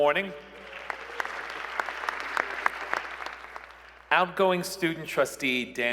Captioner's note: applause